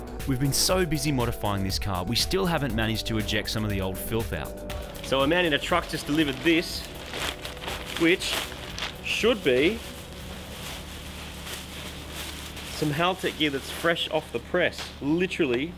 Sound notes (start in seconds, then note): 7.3 bag rustling; 10.3 bubble-wrap rustling